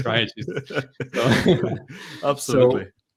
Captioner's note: both laugh